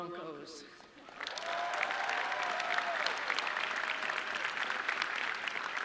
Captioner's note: audience cheering